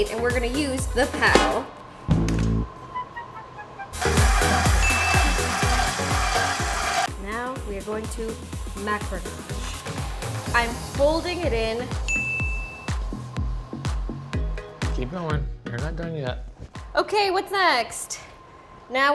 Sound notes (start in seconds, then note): 3.0 humorous music; 3.9 mixer whirring; 4.8 bell dings; 12.1 bell dings